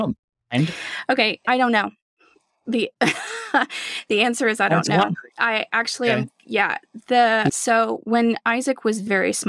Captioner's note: laughter